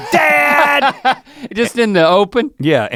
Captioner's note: laughs